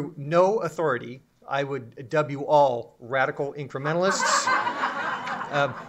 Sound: laughter

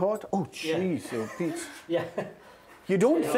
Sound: all laughing

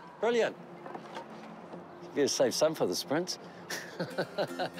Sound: chuckles

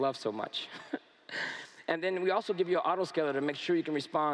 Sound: laughs

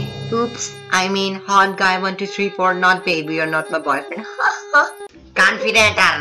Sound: chuckles : haha

